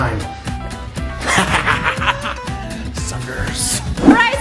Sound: laughs

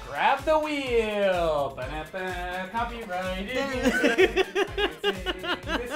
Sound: laughs

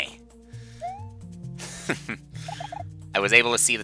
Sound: laughs

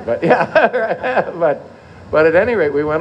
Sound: laughter

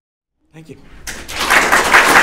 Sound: applause

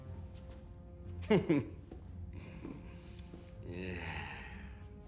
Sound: chuckles

